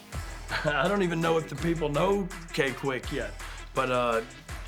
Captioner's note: laugh